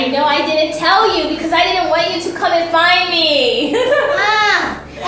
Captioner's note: giggles